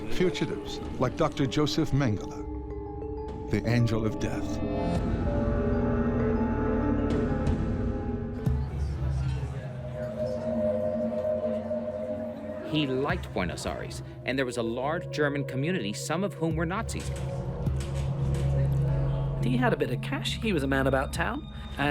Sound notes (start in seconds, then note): 4.7 eerie music; 8.3 people chattering